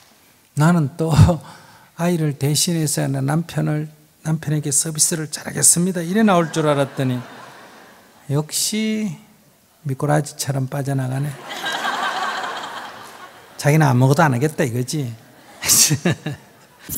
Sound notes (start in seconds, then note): 11.3 audience laughs; 15.5 laughs